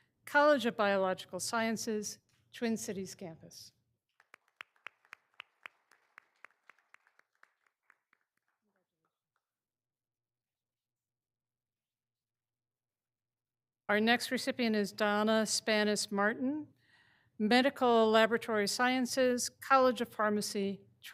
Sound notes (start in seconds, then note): 4.2 all applauding